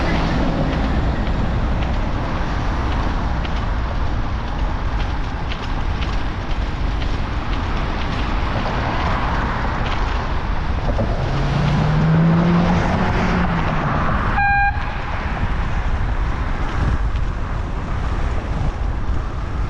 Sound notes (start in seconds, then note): 14.3 late airhorn